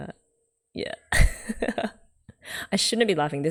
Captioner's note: laughs